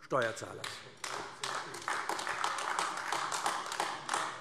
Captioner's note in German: Beifall AfD